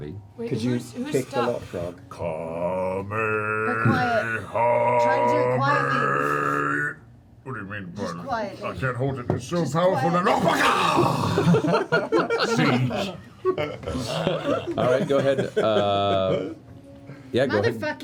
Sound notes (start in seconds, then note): 10.2 yells; 11.3 laughter